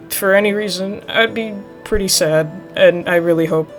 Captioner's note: none